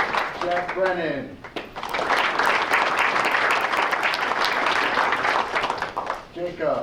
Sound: applause

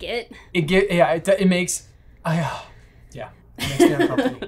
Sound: sighs

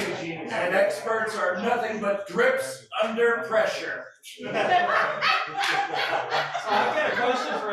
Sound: laughter

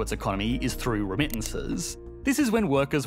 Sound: mouse clicking

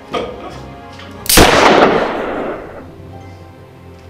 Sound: gun shot

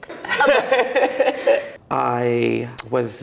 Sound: laughing

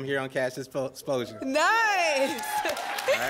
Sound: applause and cheering cont

